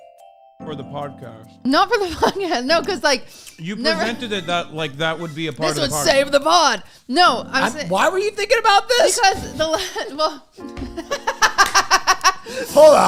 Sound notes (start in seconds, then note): 3.5 laughing; 12.3 laughs